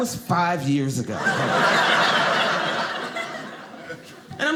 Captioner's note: audience laughing